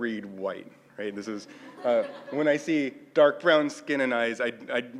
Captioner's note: laugh